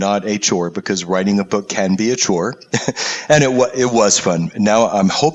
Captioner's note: laugh